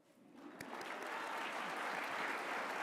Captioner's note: applause